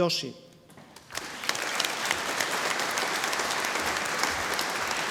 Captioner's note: audience applauding